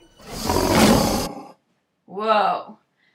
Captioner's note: growls